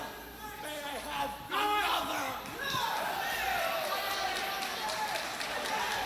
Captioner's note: crowd cheering